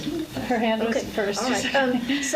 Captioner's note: laughs